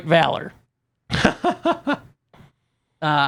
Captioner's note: laughs